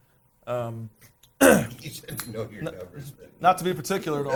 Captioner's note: laughing